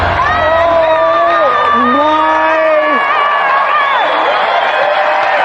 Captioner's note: yelling ecstatically